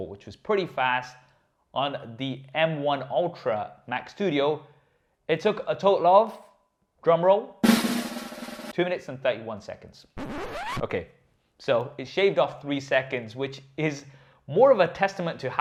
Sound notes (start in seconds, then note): 7.6 drums rumbling; 10.2 record scratching